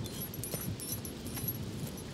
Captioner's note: birds chirping